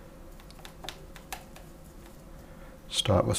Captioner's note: silence